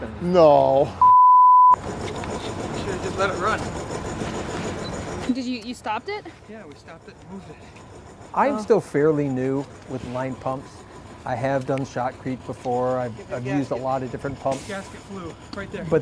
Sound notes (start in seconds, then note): 1.0 beeping; 1.8 construction noise